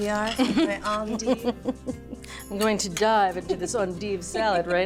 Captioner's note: laughs